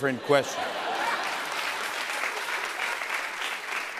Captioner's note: laughter and applause